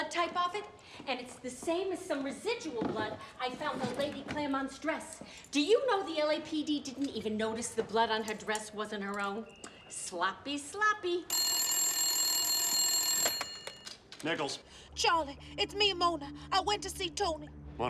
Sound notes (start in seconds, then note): 11.3 phone ringing; 14.6 suspenseful music plays